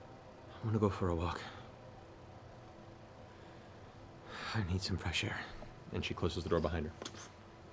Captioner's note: sighs